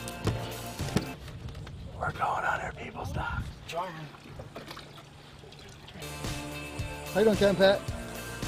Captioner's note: whisper